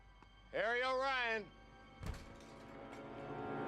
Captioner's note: door opens